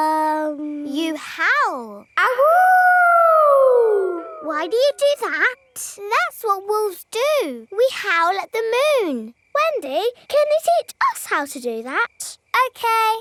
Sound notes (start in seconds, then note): 2.2 howling